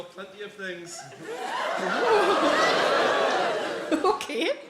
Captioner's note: audience exclaiming